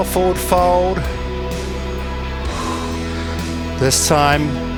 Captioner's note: breathing